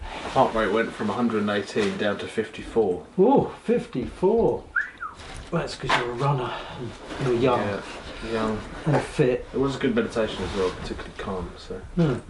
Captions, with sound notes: My heart rate went from 118 down to 54. Ooh, 54! [Whistles] That’s ‘cause you’re a runner, and you’re young. - And fit. - It was a good meditation as well. Particularly calm, so...